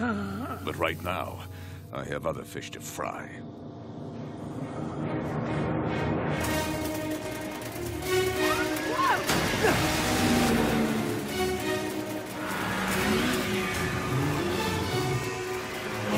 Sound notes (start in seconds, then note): 0.0 groaning; 10.5 Sea doo motors revving